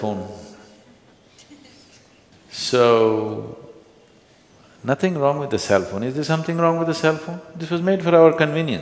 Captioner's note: few laugh